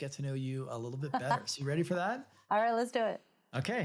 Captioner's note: laughs